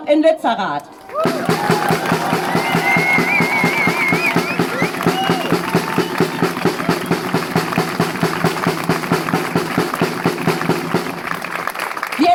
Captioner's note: drumming applause